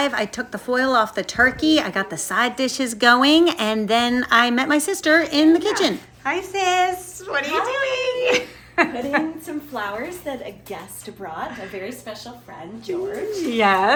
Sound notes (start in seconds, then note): 8.2 laughing